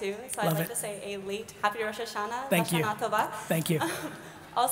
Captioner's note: speaks in Hebrew